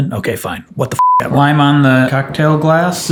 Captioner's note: beep